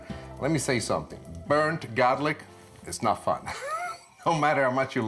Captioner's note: laughs